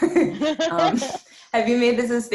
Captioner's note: laughs